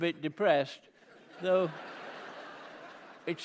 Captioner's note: laughter